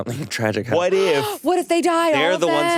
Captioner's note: gasps